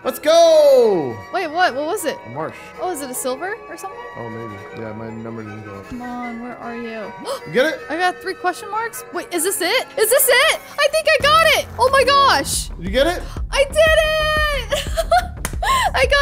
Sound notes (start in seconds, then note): 7.2 gasping; 14.6 laughing